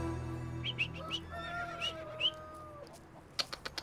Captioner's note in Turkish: Islık Çalıyor; Ağzıyla Sesler Çıkarıyor